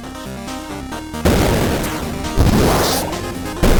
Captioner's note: explosions